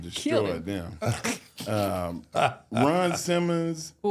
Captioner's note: laughing